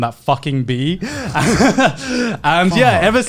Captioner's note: laughing